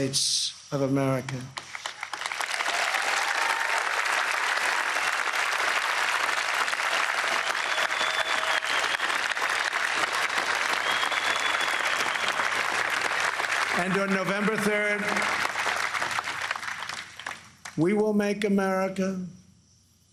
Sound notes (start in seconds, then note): 6.4 applause